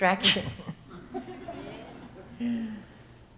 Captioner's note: audience chuckles